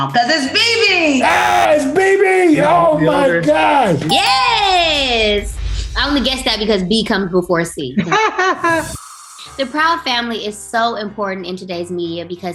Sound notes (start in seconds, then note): 1.2 buzzer; 4.5 dings; 8.0 laughter